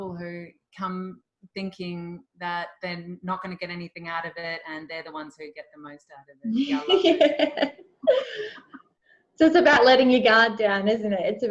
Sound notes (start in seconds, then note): 6.5 laughs